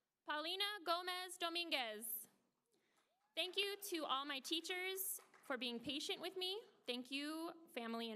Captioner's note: applause